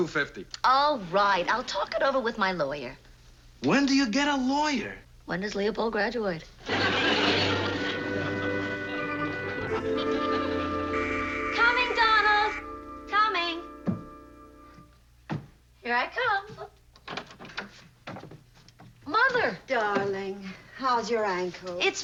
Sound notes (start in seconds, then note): 9.6 buzzer rings